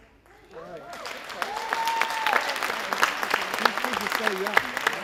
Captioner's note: audience applauding and cheering